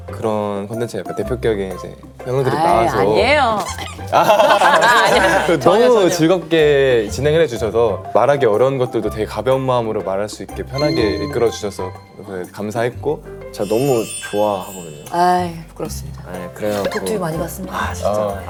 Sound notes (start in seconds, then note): 3.4 hahahaha